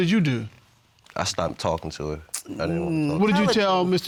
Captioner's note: clicks tongue